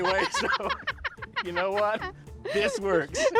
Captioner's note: laughs